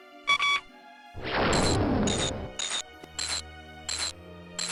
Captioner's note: wrench turning SFX; booming SFX